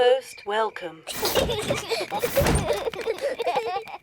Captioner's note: children laugh